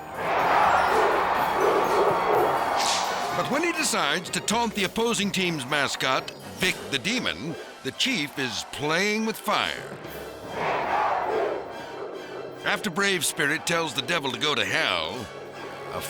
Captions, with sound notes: (crowd cheering) But when he decides to taunt the opposing team's mascot, Vic the Demon, the Chief is playing with fire. (crowd cheering) After Brave Spirit tells the devil to go to hell,